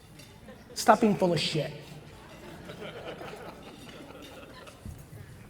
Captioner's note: audience chuckles